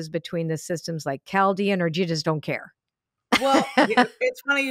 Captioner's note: laughs